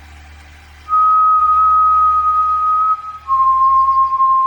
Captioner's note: Hercules whistling